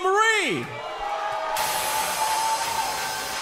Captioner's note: crowd cheering